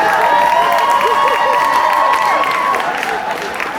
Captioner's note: audience reacts